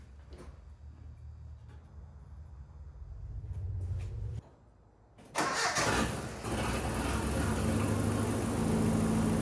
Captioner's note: engine revving